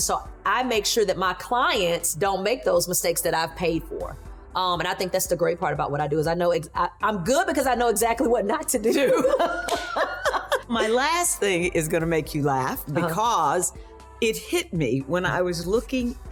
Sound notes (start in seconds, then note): 9.0 laughing